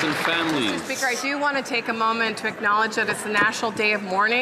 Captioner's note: some Applause